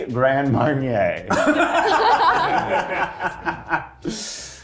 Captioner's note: cast laughing